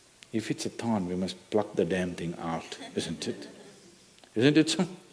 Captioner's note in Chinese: 笑聲